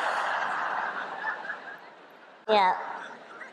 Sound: laughter

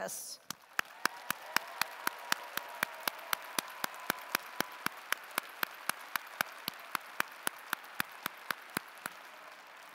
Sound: applause

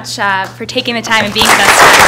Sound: applause

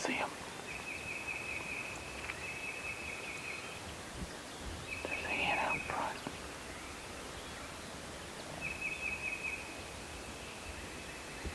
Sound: whispering

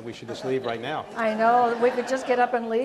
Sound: audience laughs

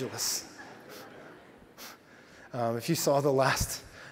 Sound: audience laughs

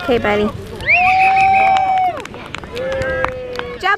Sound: whistle blows; crowd cheering

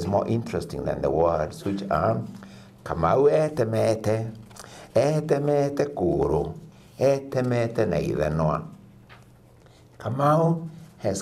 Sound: reading in another language

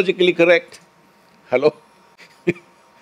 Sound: laughs

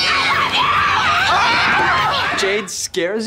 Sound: screaming

